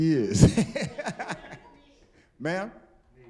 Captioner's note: laughing